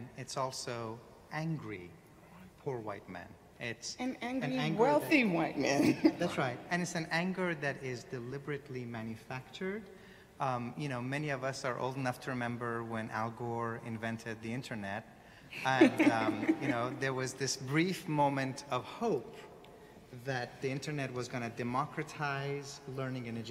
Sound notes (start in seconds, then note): 15.7 audience laughing